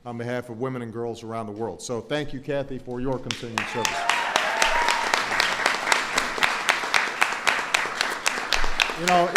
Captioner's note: applause